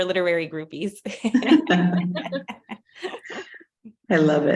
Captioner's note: laughter